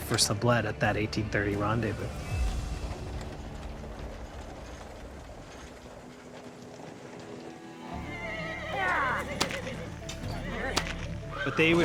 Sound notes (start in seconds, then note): 2.1 wagons rattling; 8.2 horse whinnies